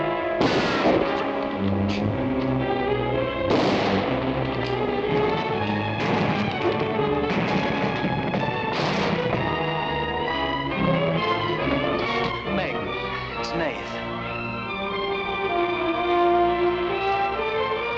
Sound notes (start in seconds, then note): 0.4 gun fires; 3.4 gun fires; 7.2 door thudding; 8.9 suspenseful orchestral music